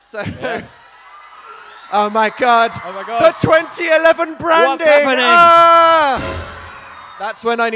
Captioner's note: screams